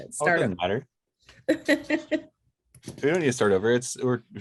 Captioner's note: laughing